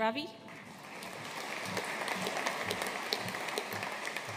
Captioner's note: audience applauding